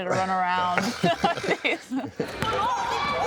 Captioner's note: laughs